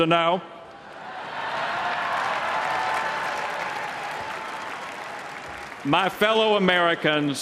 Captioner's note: applause, cheers